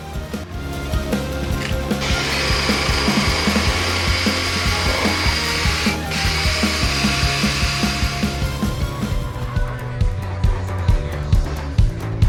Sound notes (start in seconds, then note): 2.1 drill making noises